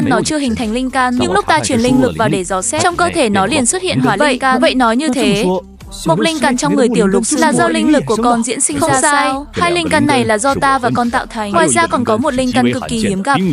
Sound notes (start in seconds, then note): 2.8 hắng giọng